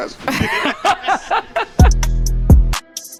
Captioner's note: group laughs; mellow hip hop music